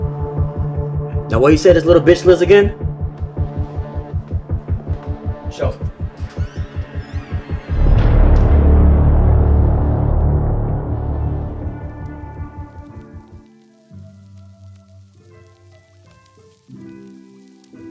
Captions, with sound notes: Now where you say this little bitch lives again? Show me. (door squeaks) (suspenseful music) (light tranquil music)